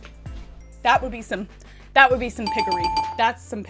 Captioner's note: bell ringing